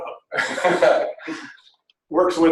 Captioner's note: laughter